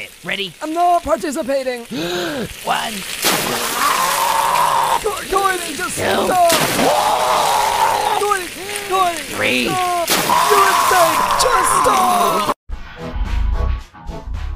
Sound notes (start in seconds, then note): 1.9 deep Breathe; 3.4 splash; 3.7 screams to death; 6.4 screams to death again